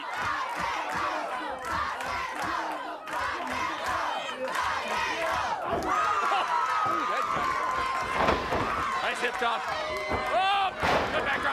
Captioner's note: applause